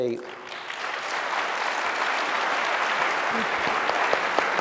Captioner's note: applause